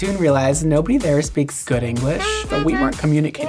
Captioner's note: horns tooting